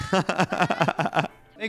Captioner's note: laughs